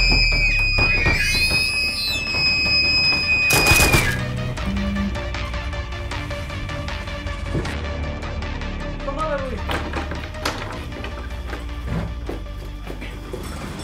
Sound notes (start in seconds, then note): 0.0 shrieker sounds and music; 3.6 gunfire; 4.6 shrieker death sound